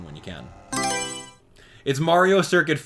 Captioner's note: Mario Selection Sound